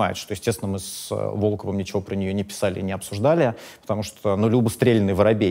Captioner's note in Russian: none